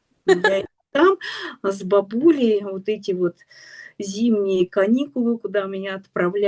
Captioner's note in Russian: смех